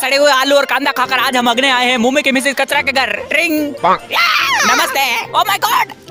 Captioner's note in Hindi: चीखने की आवाज़